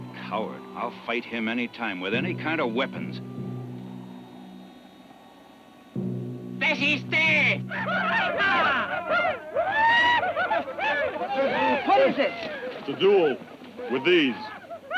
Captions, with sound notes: - Coward, I'll fight him anytime with any kind of weapons. (Delgadito speaking foreign language) (Apaches shout) - What is it? - It's a duel, with these.